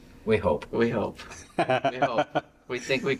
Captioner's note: laughing